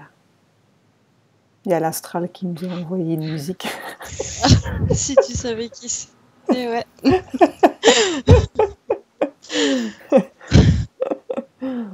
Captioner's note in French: rires